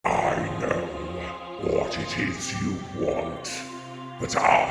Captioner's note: distorted, deep voice